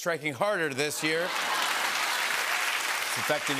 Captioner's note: applause